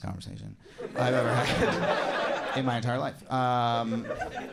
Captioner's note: audience laughs